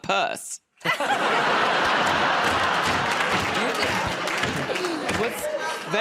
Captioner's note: laughter